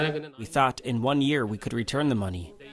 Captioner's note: through translator